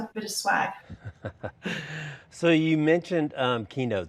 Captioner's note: laughing